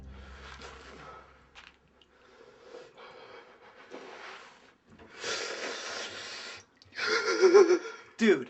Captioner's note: BOARD JAMES, scared, gasping, breathing heavily